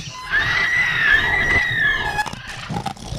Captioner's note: screaming; bones crunching